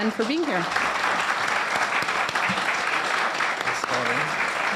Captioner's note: audience applauding